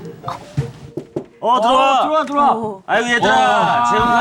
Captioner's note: timid knocking